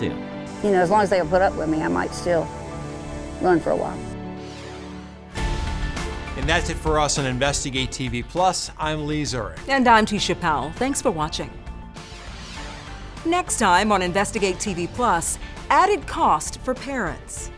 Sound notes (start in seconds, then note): 5.3 upbeat music; 12.1 screen whooshing